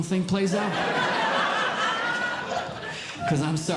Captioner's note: audience Laughing